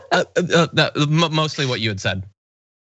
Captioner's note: laugh